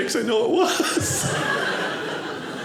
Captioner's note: audience laughing